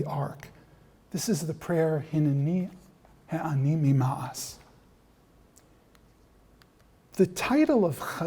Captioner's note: non-english speech